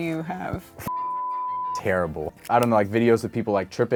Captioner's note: beep